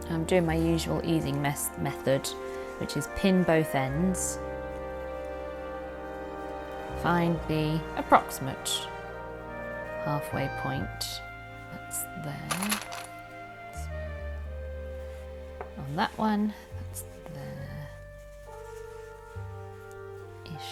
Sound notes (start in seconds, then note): 12.4 clips rattling